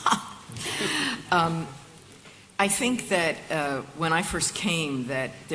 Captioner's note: laughs